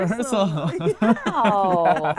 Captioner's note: laughing